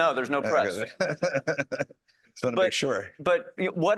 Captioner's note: laughs